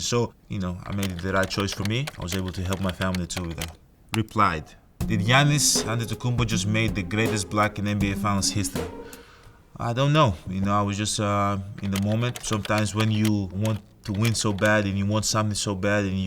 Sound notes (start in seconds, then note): 5.0 slow music; 12.3 keyboard clicking